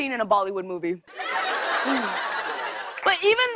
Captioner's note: laughter